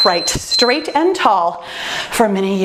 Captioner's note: timer beeps